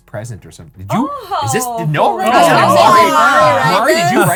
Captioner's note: group chattering